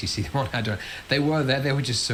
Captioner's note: laughs